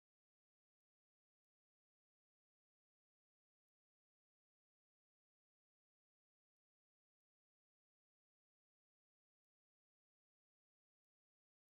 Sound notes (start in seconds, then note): none